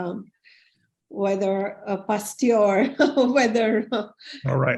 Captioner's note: laughs